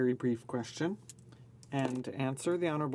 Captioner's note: speaking French